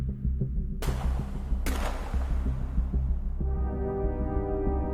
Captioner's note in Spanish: Disparos